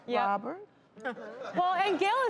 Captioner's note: laughter